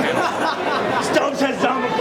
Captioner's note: laughing